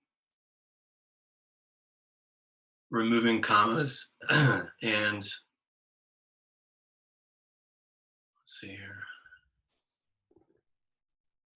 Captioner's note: clears throat